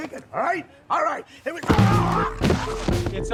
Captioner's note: groaning in pain; upbeat music